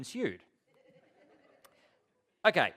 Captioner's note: laughter